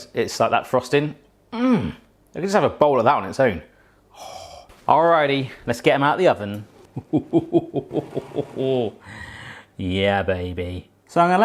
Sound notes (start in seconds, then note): 3.7 exhales; 6.9 laughing